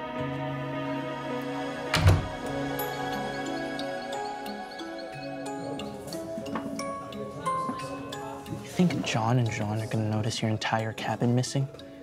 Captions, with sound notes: (door opens) (uplifting music) - You think John and Jean are gonna notice your entire cabin is missing?